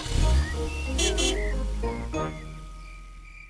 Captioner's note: horn honks